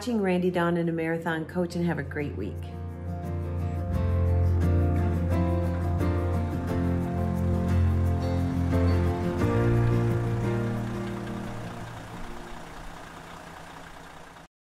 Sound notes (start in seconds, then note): 4.1 cheerful music; 6.0 idling vehicle